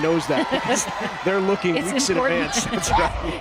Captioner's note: laughing